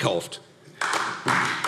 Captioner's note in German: Beifall AfD